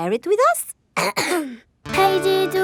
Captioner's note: clears throat